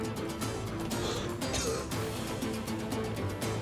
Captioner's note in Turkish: Öksürme sesi